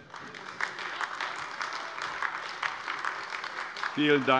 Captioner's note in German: Beifall AfD